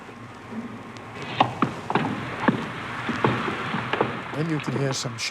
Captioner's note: German radio broadcast; explosions from broadcast